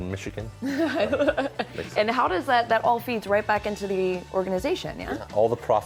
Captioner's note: laughs